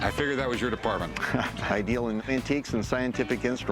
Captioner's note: laughs